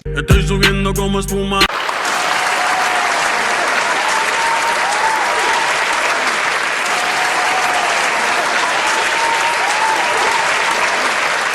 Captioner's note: applause